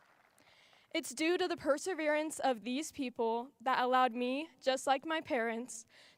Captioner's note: applause